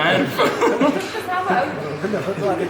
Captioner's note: laugher